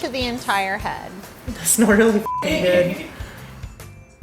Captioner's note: laugh